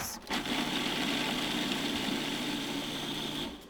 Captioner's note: grinding